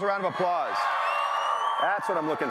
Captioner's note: cheering and applause